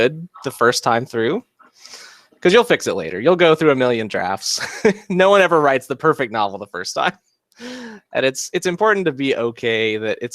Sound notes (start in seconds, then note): 4.5 chuckles